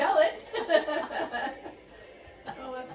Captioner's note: laughter